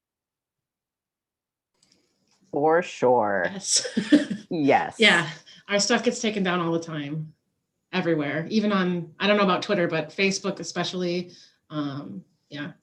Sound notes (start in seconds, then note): 3.9 laughing